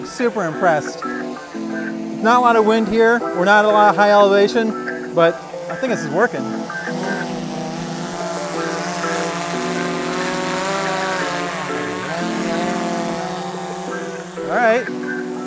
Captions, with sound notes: I'm super impressed. Not a lot of wind here, we're not at a high elevation, but I think this is working. (drone buzzing) All right.